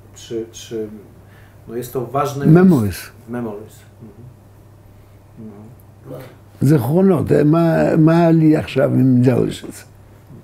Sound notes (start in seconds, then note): 6.9 in Hebrew to Ron